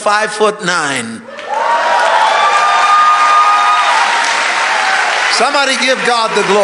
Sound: congregation cheering

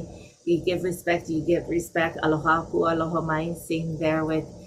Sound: foreign language 00:42:09

